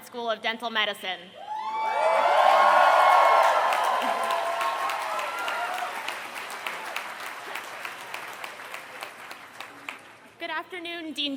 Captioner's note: applause